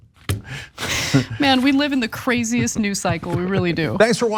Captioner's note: laugh